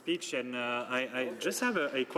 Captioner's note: speaking French